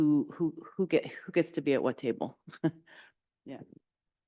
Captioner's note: chuckles